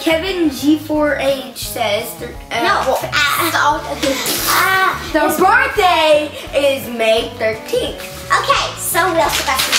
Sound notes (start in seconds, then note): 2.3 stuttering; 3.2 laughing; 8.8 drowned out by paper rustling